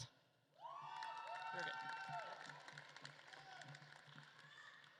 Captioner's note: audience claps and cheers